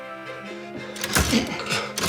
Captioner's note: typewriter clunks